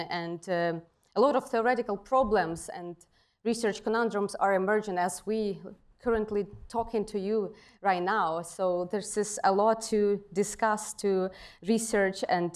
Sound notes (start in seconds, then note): none